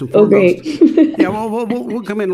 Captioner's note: laughing